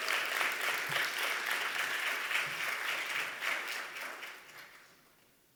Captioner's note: applause